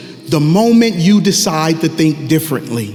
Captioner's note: none